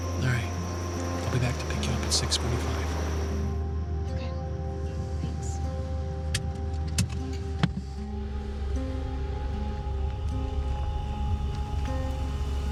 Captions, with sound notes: - All right, I'll be back to pick you up at 6:45. - Okay, thanks. (seat belts click) (car engine whirs)